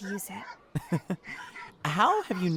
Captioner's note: amused Chuckle